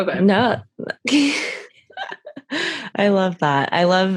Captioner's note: laughs